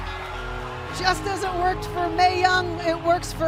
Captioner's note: cheers and applause